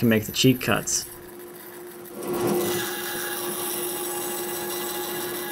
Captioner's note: machines whir